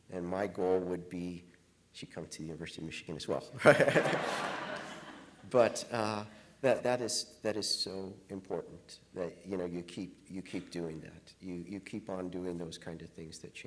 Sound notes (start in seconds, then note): 3.6 chuckles; 3.6 audience laughing